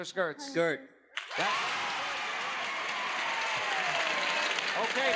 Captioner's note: audience cheers